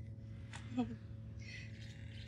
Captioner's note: Chuckles